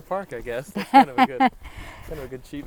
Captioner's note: laughs